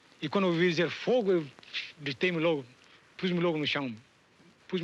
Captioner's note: speaking in foreign language